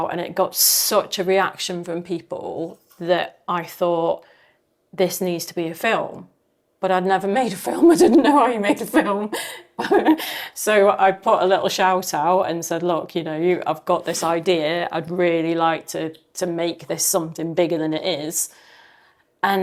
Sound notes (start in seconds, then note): 7.8 laughing